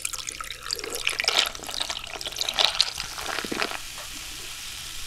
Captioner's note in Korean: 청량한 콜라 소리 너무좋다~💕